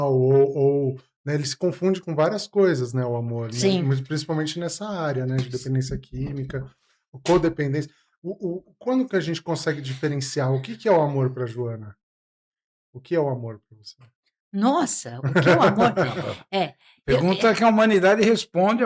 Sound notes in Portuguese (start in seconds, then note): 15.2 risadas